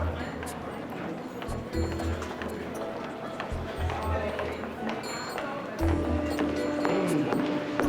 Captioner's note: footsteps